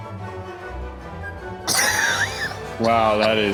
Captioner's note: laughs